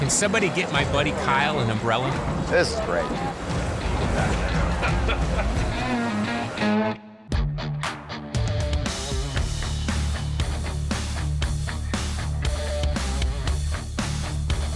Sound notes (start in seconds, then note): 5.0 laughing; 7.4 rock music playing